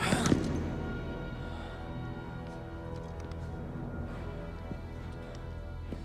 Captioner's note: Castellano exhales sharply; suspenseful music